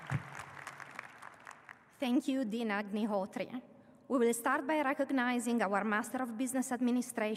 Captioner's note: applause